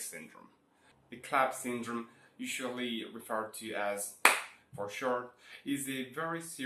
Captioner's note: clap